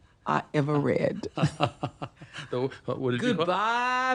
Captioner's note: laughs